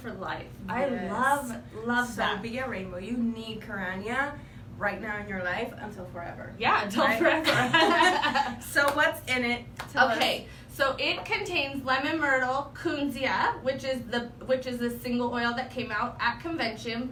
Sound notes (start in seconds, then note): 7.4 laughs